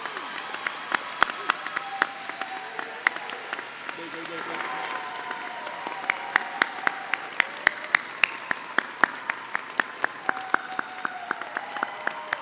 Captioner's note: applause